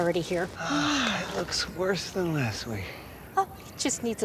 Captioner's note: sighs